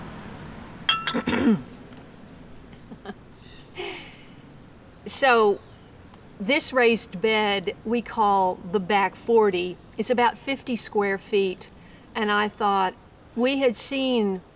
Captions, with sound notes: (cup chinks as I set down) Ha, ha, ha. So... this raised bed we call The Back Forty. It's about 50 square feet, and I thought, we had seen